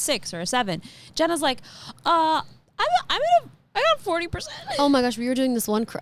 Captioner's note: laughs